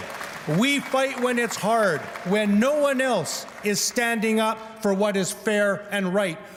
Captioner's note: cheers and Applause